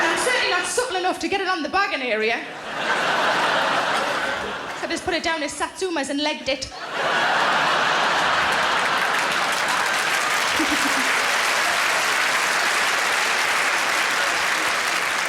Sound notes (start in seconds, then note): 0.0 audience laughing; 2.5 audience laughing; 6.9 audience laughing; 8.9 audience applauding